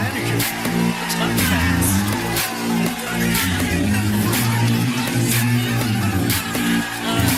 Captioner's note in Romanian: Aplauze